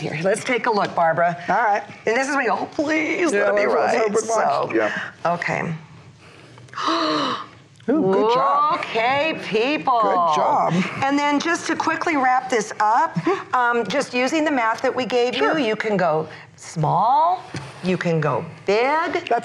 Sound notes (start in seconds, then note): 6.6 gasps